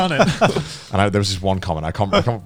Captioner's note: laughing